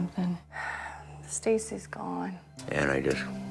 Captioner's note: sighs